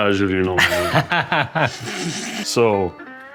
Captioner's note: chefs laughing